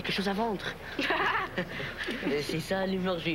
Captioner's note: Rires